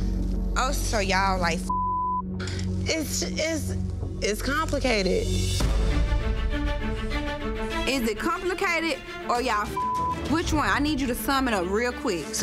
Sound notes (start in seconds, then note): 1.6 beep; 5.5 suspenseful music; 9.7 beep